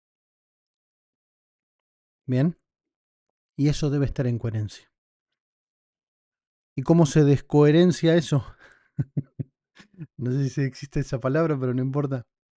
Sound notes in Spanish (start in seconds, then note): 8.9 risas